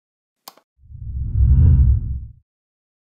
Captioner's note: whooshes